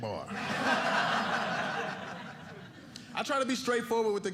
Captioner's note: audience laughing